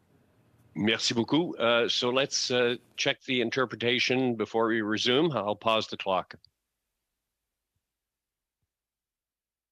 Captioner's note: speaking French